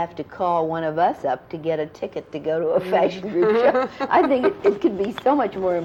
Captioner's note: laughter